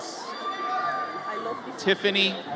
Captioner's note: audience cheers